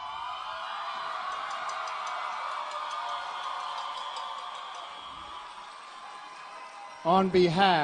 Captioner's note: applause and Cheering